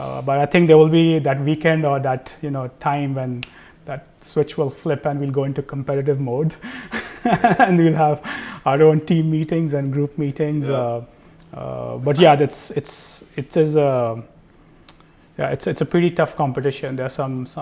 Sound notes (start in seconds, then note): 6.6 laugh